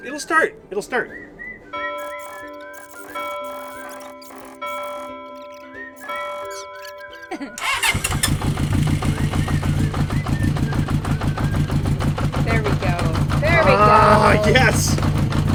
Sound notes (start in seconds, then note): 2.5 bell tolling; 7.6 engine running